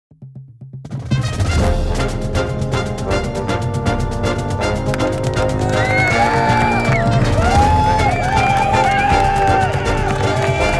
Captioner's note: crowds Cheering; marching Band Music